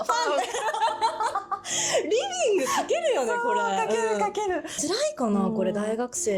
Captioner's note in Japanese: 笑い